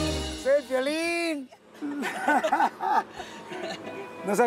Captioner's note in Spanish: Risas